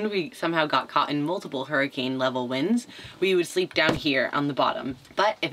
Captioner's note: none